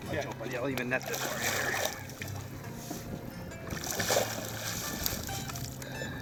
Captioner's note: voiceover